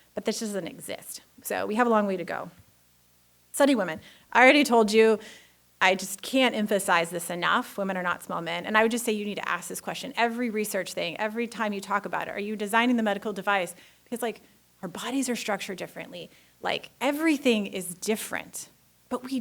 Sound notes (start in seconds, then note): none